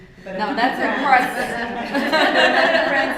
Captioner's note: laughter